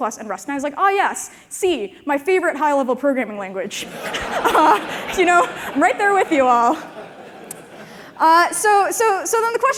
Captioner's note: laughter